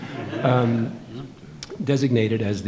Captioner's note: audience laughing